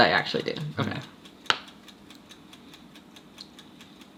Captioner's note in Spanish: riendo